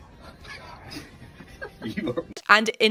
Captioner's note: both chuckling